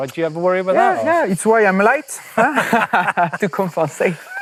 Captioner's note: laughter